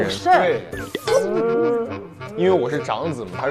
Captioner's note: crying